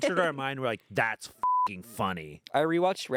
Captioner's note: beep